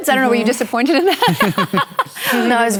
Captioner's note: laughter